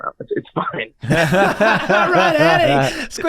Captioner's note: everyone laughs